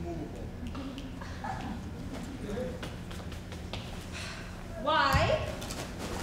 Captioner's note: Petruchio snapping